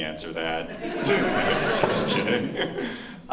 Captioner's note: laughter